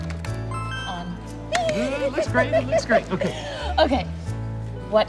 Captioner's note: giggling